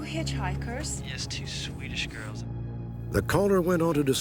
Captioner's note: on phone